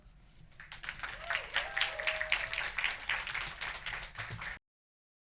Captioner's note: audience applauding